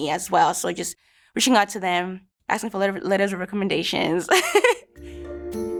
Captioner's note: laughs